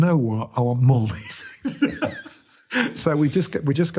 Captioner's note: laughs